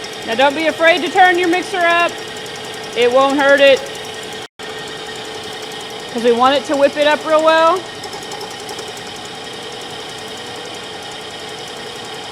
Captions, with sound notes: Now don't be afraid to turn your mixer up. It won't hurt it 'cause we want it to whip it up real well. (mixer whirring)